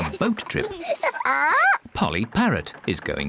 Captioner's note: polly squawks